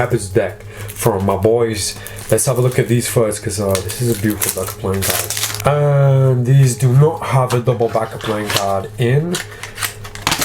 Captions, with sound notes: the Pepper's deck, from my boys. Let's have a look at these first, 'cause this is a beautiful (plastic crackling) deck of playing cards. And these do not have a double-back playing card in.